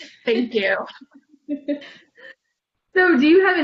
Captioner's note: laughter